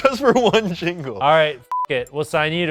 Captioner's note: beep